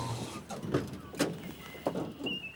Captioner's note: van door clicks; birds chirping